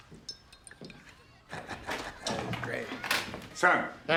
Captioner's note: laughs